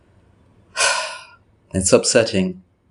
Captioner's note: deep sigh